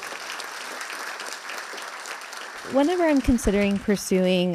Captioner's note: audience applause